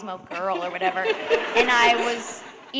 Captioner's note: laughter